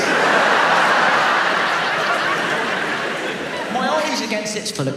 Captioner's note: audience laughs